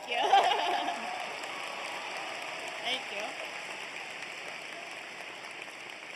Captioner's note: applause